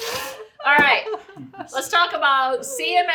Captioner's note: laughs